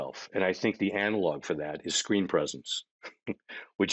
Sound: chuckling

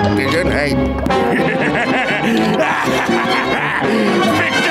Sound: laughing

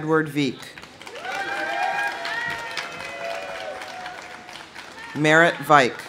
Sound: audience applauding; audience cheering

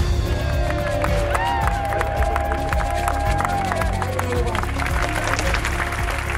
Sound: loud cheering; upbeat music

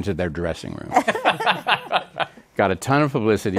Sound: laughter

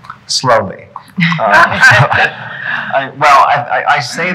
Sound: laughing

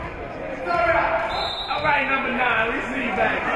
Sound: whistle being blown; spectators shouting encouragements

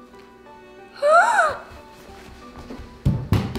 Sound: light instrumental music; gasps

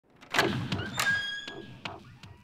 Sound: foreboding music playing; door unlocking

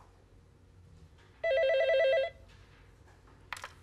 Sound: phone ringing

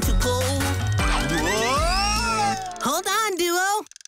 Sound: fishing reel whirring

